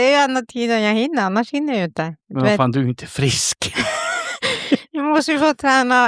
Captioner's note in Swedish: skratt